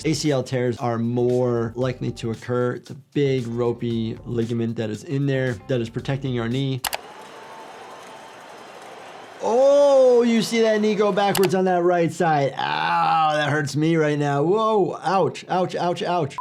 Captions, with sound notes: ACL tears are more likely to occur. It's a big ropey ligament that is in there that is protecting your knee. (transition clicks) (crowd cheers) Oh, you see that knee go backwards on that right side. Ow, that hurts me right now. Whoa, ouch, ouch, ouch, ouch.